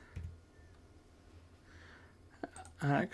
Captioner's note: silence